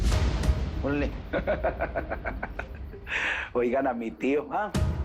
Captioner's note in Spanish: Risas